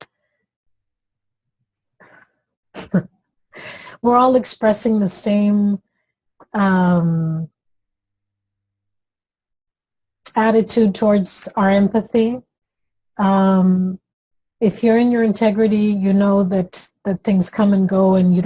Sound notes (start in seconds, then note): 2.5 laughs